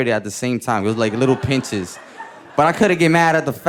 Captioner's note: audience laughing